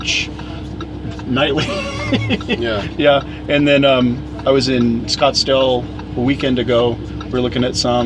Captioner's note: laughs